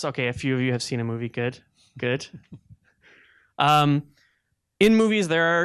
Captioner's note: chuckling